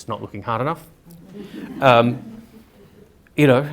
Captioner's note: audience laughter